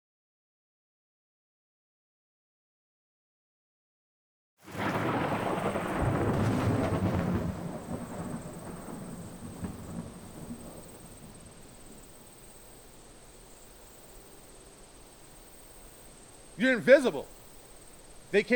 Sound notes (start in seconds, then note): 4.8 distant thunder rumbling